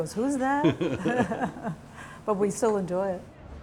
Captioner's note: laughing